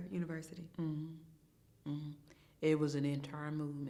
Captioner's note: hums in agreement